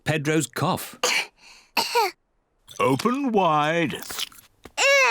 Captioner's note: both cough